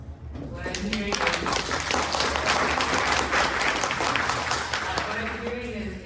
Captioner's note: applause